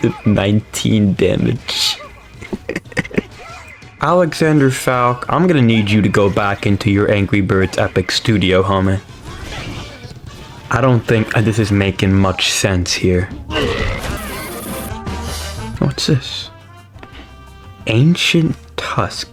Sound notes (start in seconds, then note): 1.2 laughs to myself